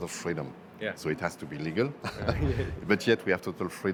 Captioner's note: they laugh